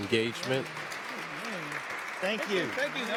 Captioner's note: audience clapping